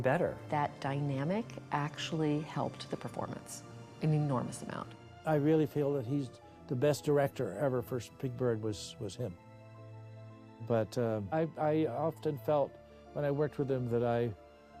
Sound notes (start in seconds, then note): none